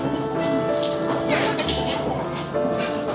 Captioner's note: big crunch